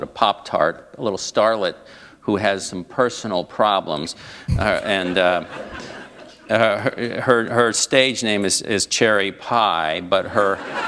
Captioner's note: laughter